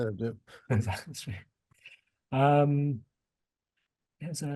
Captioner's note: chuckles